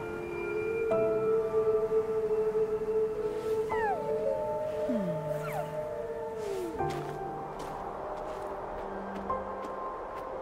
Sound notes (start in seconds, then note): 1.0 creature cooing